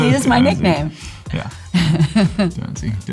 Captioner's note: Laura laughing; Liam laughing